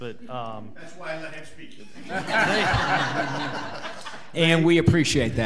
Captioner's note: laughing